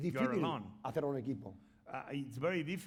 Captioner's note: speaking spanish